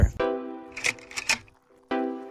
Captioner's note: projector slide change